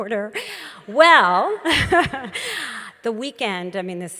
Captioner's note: laughs